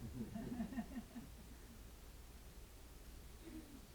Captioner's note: audience laughing